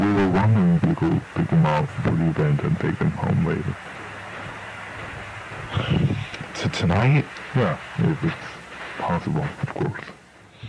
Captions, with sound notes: We were wondering if you could pick them up for the event and take them home later. - (sighs) Tonight? - Yeah. If it's possible, of course.